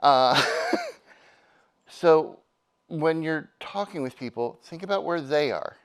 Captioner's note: laughs